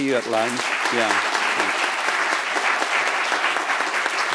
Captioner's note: applause